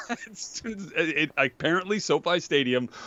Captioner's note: laughs